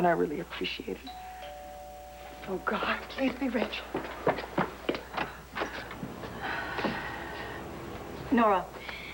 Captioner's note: doorbell rings